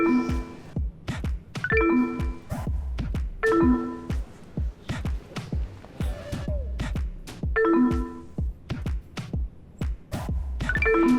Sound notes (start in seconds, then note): 0.1 electronics beep; 0.1 upbeat music; 3.4 electronics beep; 3.8 upbeat music; 7.5 electronics beep; 7.9 upbeat music